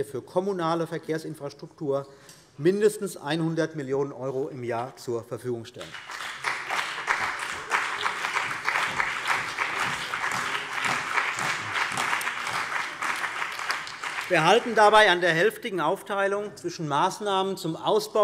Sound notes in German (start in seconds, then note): 5.8 Beifall bei der CDU und dem BÜNDNIS 90/DIE GRÜNEN